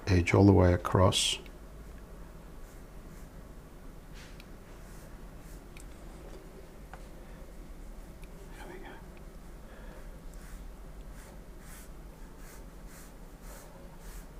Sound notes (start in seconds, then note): 1.5 silence